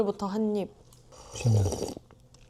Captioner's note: slurp